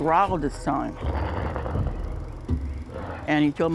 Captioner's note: Rougarou growling